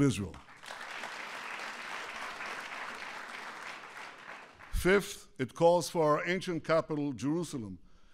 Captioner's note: applause